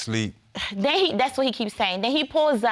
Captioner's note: scoffs